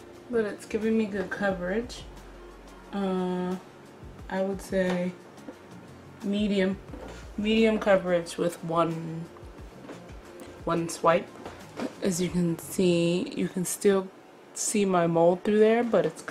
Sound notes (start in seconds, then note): none